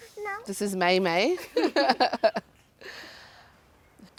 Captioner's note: laughs